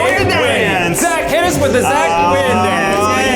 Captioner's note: cheers